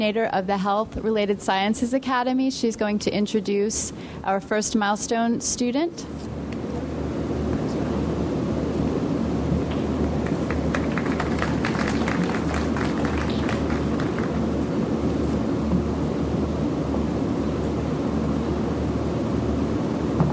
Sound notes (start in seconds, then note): 9.8 audience applauds